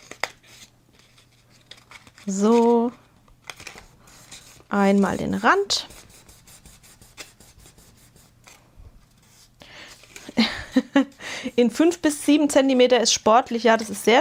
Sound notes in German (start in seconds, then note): 10.3 gelächter